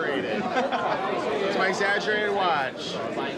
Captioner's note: laughs